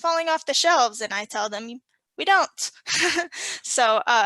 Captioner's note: laughs